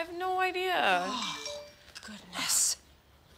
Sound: phone Dings

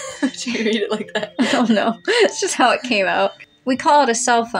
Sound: giggle; giggling

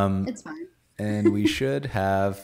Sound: laughs

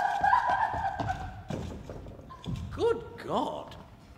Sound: crying

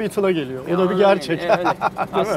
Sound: laughings

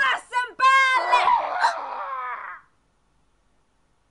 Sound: muffled screaming

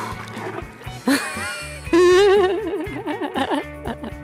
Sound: whale blowing; laughing

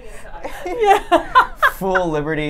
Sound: laughs

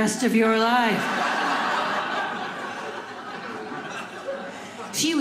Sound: audience laughing

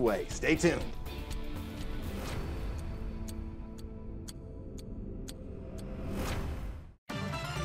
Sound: clock ticking; dramatic music; upbeat electronic music

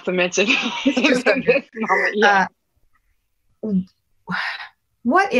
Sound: laughter

